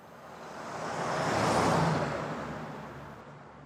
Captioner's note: car whizzes